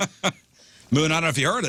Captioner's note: laughing